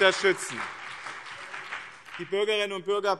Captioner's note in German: Beifall BÜNDNIS 90/DIE GRÜNEN und CDU